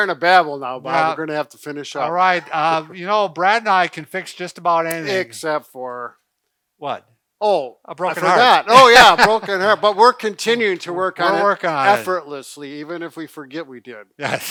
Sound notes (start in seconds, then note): 8.2 laughs